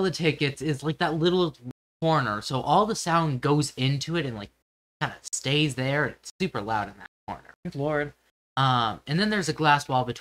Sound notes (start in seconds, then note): none